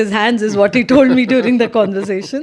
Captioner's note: laughs